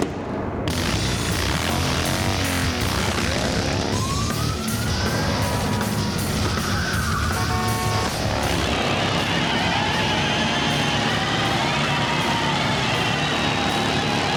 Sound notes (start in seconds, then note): 0.1 dramatic music; 0.9 engines revving; 4.3 sirens wail; 7.4 horns honking; 9.1 engines revving; 9.1 tires screeching